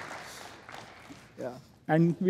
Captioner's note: applause